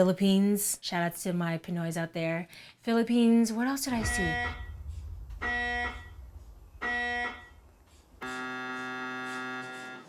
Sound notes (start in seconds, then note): 4.0 buzzing